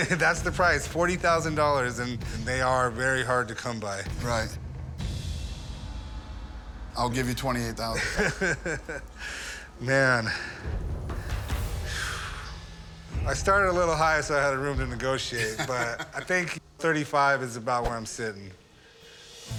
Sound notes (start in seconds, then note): 7.9 laughs